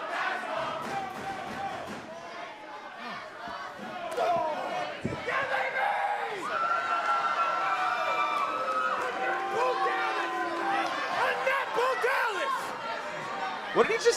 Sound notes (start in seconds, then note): 0.0 fans chanting; 8.7 cheers & applause